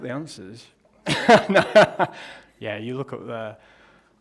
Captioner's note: laughs